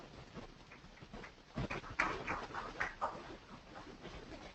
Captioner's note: applause